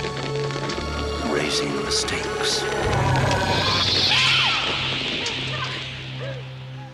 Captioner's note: screaming